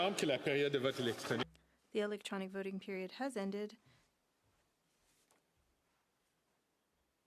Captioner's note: speaking French